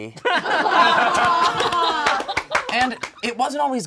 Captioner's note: all laugh